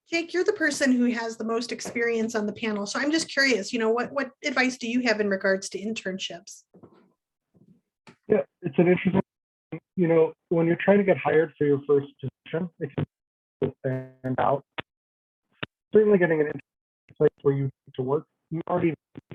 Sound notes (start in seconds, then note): 13.7 speaker drowned out by microphone feedback